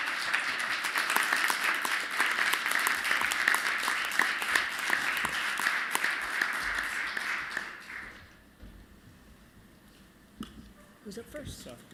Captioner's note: applause